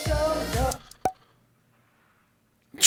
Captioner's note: silence